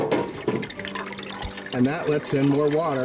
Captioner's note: water splashing